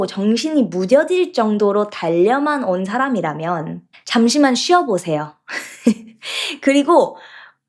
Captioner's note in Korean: 웃음